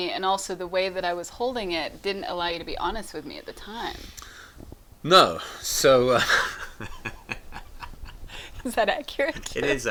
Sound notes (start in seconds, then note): 5.9 laughs